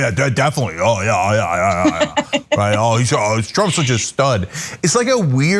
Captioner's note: laugh